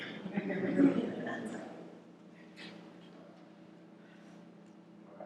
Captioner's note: laughter